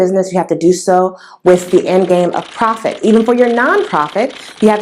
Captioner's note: typing sound